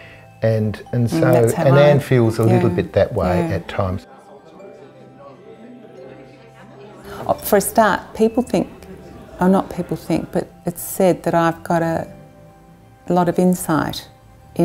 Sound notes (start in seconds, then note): 4.4 people conversing